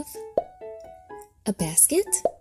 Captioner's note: objects popping